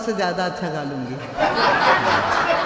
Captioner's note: everyone bursts out laughing!